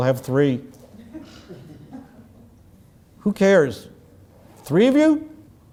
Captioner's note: laugh